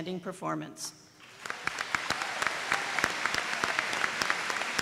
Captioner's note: applause